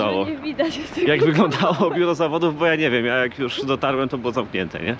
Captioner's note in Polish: śmiech